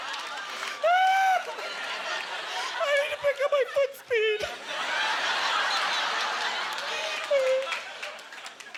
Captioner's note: yelling; sobbing; audience laughter